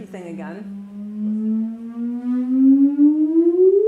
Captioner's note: electronic humming